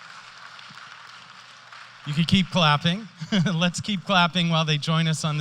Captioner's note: applause